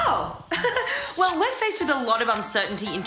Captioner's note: giggles